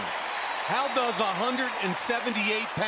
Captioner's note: cheering